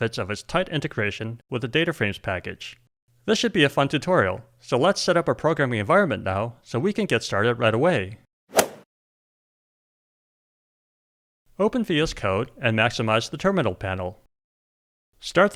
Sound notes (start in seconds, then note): 8.5 golf swing sound effect